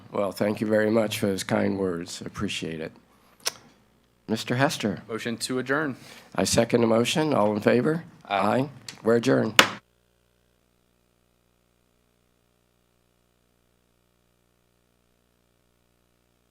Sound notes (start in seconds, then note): 9.5 gavel whacks